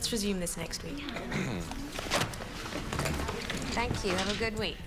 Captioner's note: clears throat